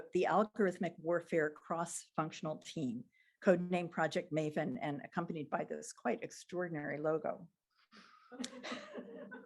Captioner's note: laughter